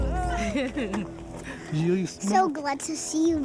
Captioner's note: laughing